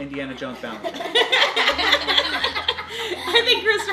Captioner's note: laughing